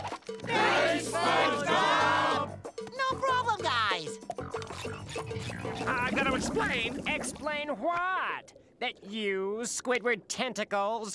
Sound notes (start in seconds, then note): none